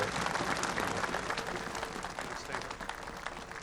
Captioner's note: applause